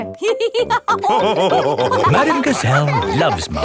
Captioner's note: all laughing